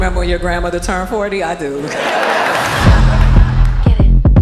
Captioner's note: crowd laughs